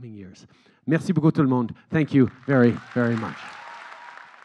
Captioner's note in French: Acclamations et applaudissements